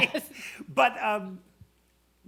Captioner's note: laughs